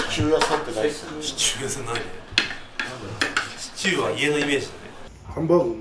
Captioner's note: laugh